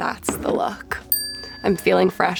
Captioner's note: bell dings